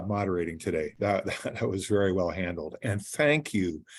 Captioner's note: laughing